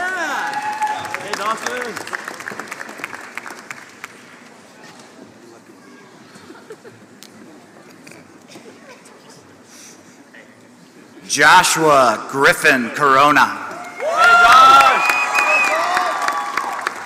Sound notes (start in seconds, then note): 0.0 applause; 6.4 laughter; 14.1 applause